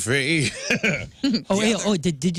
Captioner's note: laughing